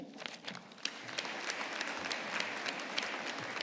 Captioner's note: audience applauding